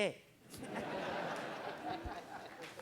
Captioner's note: crowd Laughing